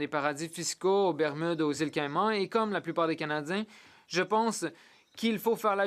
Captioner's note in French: voix de l'interprète